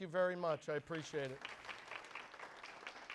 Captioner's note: crowd applause